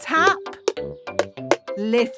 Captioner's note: taping